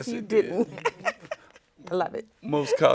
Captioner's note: laughing